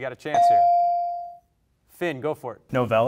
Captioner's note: bell rings